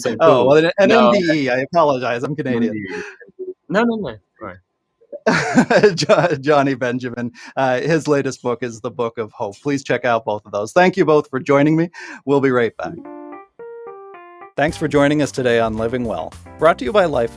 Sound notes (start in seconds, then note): 5.1 laughing